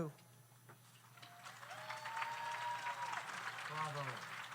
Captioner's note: audience applauds; audience cheers